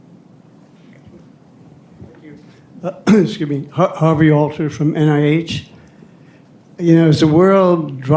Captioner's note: coughs